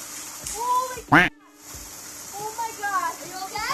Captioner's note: narrator quacks